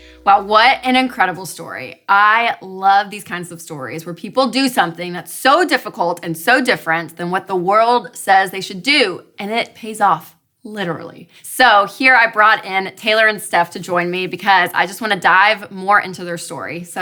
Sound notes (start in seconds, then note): none